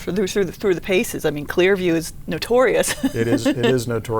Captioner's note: laughs